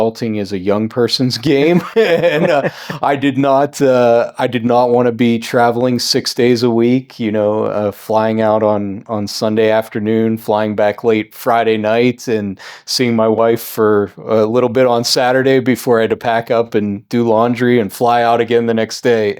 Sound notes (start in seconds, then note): 1.5 both laughing